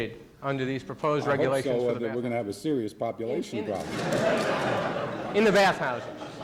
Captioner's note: laughing